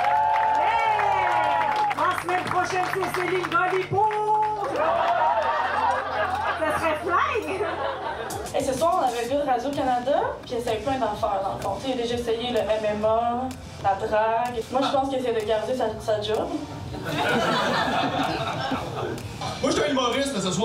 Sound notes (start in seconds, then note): 0.0 applause; 4.7 laughs; 17.0 laughs